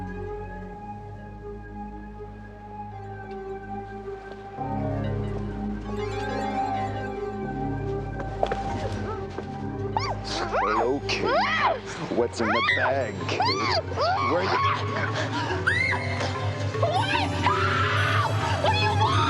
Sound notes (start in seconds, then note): 9.3 Kate moaning; 13.8 Kate screaming